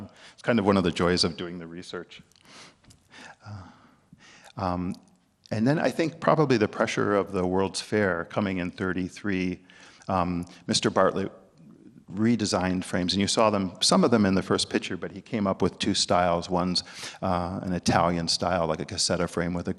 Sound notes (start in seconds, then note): 2.4 breathing soundly